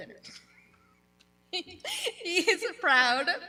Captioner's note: laughing